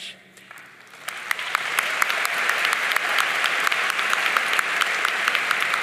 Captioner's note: audience cheering and applauding